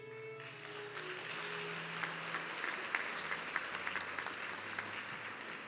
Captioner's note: audience clapping